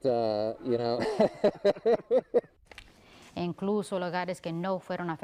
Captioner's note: laughs